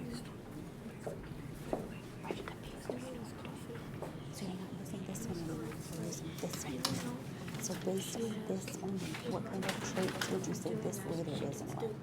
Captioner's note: quiet talking in the background